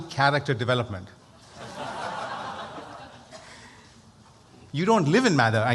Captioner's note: laughter